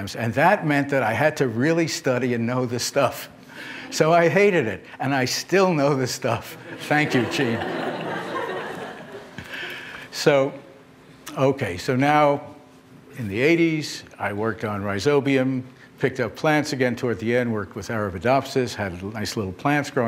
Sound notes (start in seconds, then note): 6.6 laughter